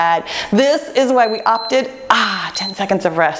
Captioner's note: timer beeps